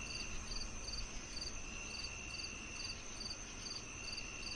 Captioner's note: crickets chirping